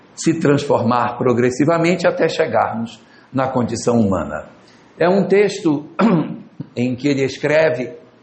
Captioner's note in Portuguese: limpando a garganta